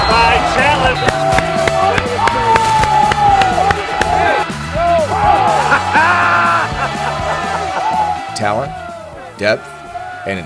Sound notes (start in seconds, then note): 4.6 yelling on field; 7.6 laughter